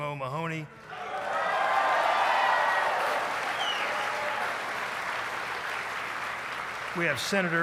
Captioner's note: applause